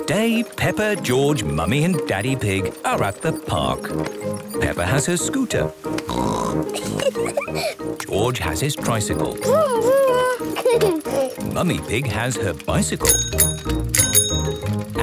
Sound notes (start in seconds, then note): 6.0 snorts, giggles; 9.2 giggles; 13.0 bicycle bell dinging